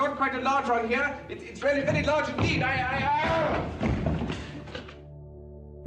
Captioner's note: screams